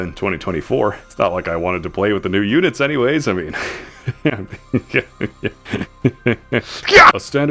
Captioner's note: laughing the pain away